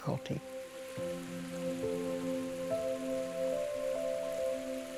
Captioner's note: water running